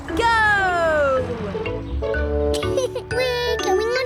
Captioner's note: laughs